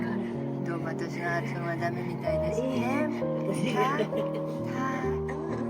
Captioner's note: haha